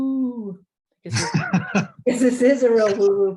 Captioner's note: laughs